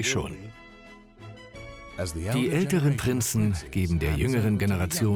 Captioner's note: voiceover